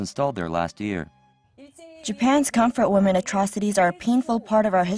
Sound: Korean

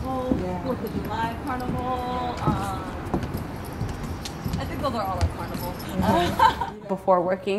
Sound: laughter

